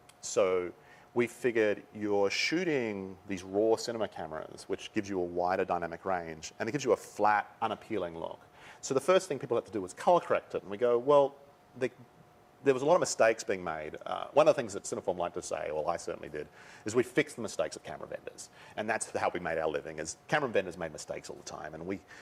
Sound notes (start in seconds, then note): none